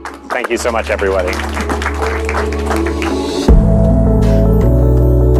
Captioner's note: applause